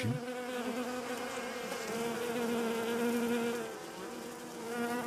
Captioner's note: hive buzzes